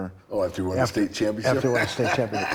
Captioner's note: laughing